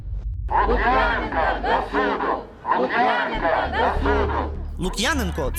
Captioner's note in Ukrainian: cкандують: “Лук’яненка до суду! Лук’яненка до суду!”